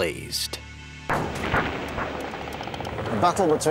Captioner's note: guns firing